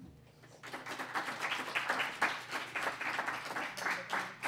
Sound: applause

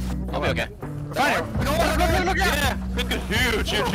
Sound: excited chatter

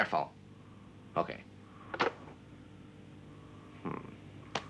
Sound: phone clatters

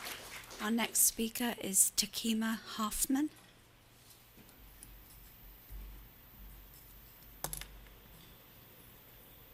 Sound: applause

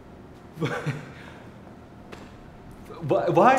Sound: stammers

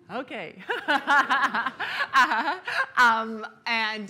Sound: laughs

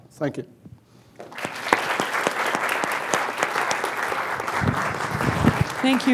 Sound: applause

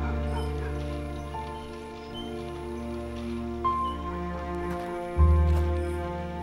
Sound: dog barking in distance

